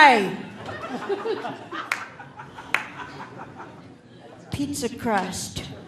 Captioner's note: audience laughing